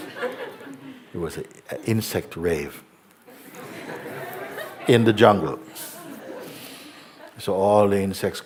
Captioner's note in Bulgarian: смях; смях